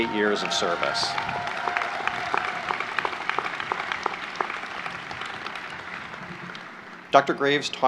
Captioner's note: applause